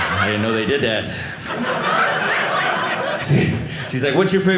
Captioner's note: audience laughing